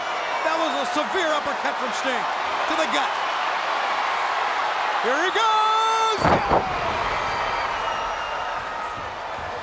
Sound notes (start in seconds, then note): 3.8 crowd cheering; 6.3 Ric thudding on ring